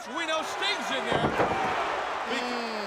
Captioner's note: crowd cheering